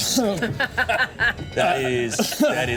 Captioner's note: teammates laughing